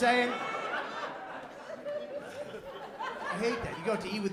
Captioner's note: laughter